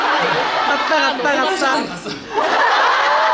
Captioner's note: laughs